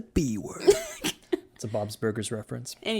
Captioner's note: laughs